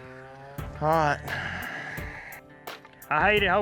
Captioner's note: sighs